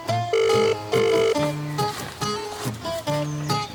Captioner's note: phone calling